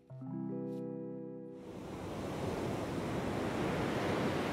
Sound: waves whooshing

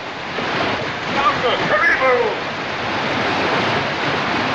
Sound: shouting In African Language

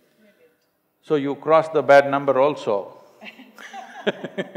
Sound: both laugh

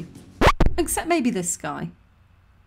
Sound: record scratch

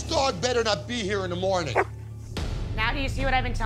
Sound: barks

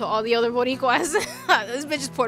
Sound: laughs

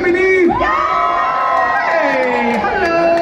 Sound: cheers

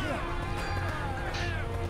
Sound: yelling

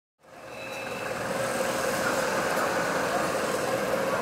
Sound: noisy street

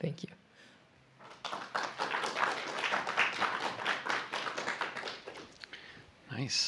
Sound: applause

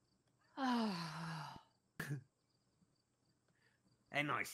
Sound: sighs

